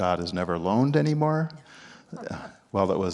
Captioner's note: chuckles